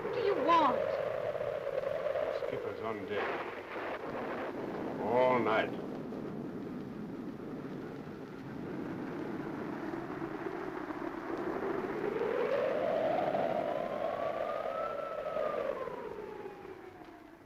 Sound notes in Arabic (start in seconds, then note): 5.1 صوت الرعد; 5.1 هدير الريح